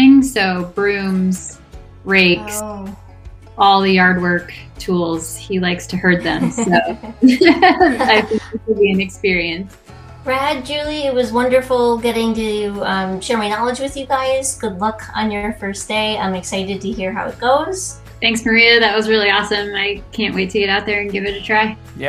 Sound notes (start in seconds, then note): 6.0 laughing